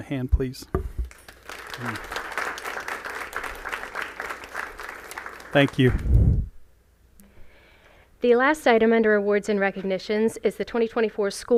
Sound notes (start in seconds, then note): 1.0 applause